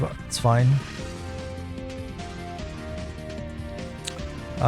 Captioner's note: mouse clicks